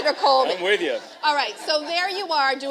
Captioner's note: laughter